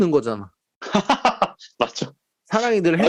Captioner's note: laughter